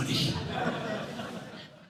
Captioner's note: laughter